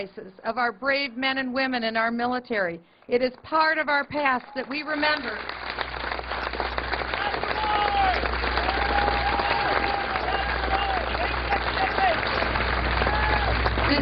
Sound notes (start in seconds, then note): 0.9 cheers and applause